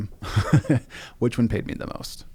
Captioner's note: laughs